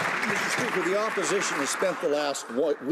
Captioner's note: some Applause